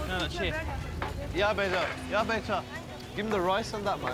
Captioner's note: speaking native language